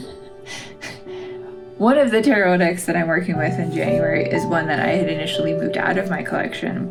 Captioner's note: laugh